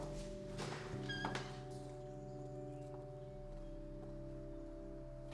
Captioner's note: door closes